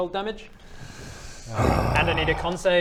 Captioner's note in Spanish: suspiro